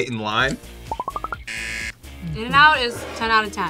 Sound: buzzer

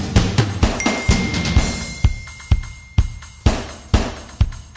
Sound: message clinks

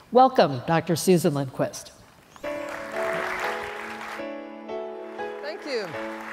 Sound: applause

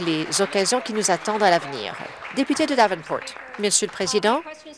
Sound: applause

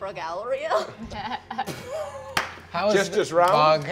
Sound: laughing

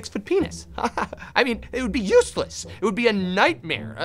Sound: smarmy chuckle

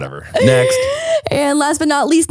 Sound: laughing

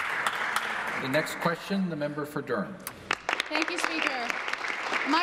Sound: applause

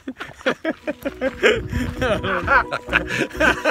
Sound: laughs

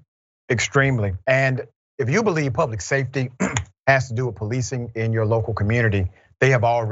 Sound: cough

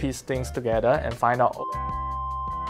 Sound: beep

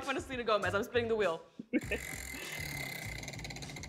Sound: laughs

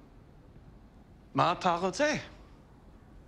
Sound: speaks Hebrew

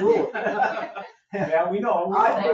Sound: people laugh

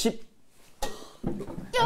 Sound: sigh

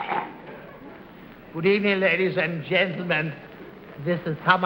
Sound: english accent

